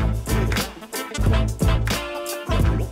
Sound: none

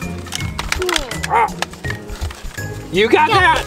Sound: grunting

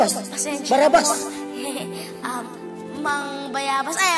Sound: chuckles

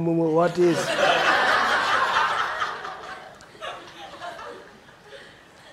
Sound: audience laughing

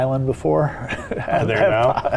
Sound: laughing

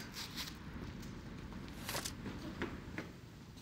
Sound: footsteps running

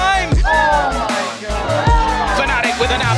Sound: team cheering

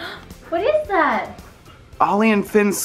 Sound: gasps

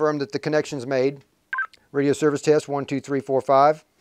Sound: device chirps

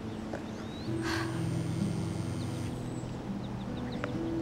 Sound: phone buzzing

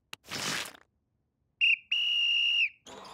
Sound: whistling

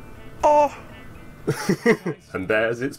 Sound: laughing

